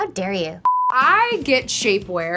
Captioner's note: beep